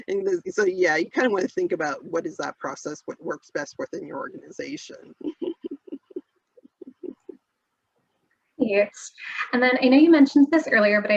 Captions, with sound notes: And so, yeah, you kind of wanna think about what is that process, what works best within your organization (laughs). - Yes, and then I know you mentioned this earlier,